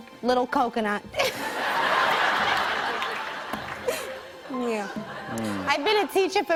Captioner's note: laughter